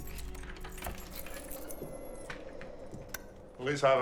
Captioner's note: keys jangling; suspenseful music; door latch clicks; light switch clicks